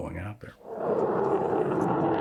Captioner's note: jet engine